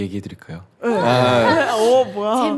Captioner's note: A cheering crowd